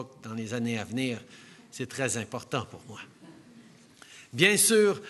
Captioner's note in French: Rires